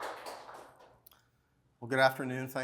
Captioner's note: applause